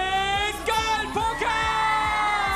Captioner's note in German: Jubel